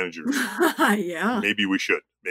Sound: chuckles

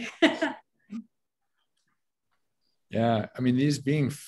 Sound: laughs

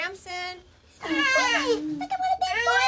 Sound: baby crying

